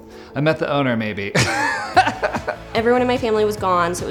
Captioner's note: laughs